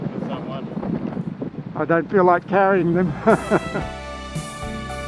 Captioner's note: laughs